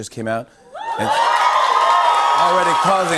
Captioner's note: cheers and applause